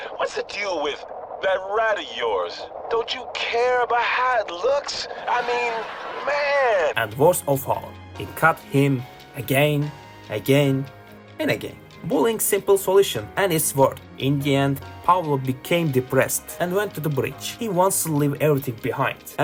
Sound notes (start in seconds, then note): 5.0 laugh sound effect